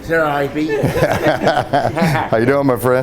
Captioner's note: Sheriff laughs